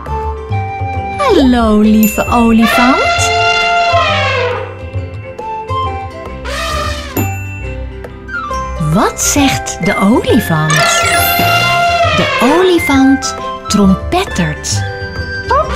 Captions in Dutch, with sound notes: Hallo lieve olifant (je hoort het dierengeluid van de olifant) Wat zegt de Olifant? De olifant trompettert.